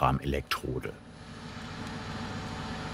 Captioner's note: hissing